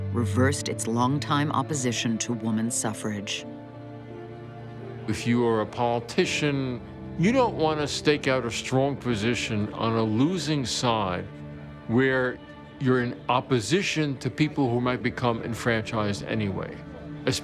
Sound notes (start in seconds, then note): none